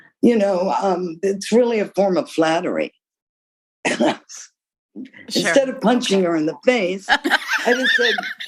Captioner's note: laughter